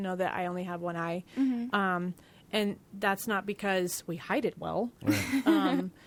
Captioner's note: laughing